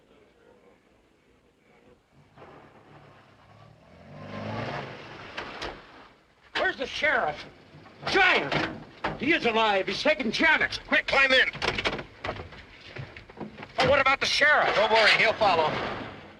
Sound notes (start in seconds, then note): 2.3 engine revs